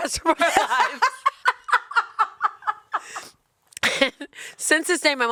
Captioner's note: laughs